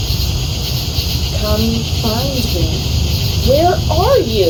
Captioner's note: strange voice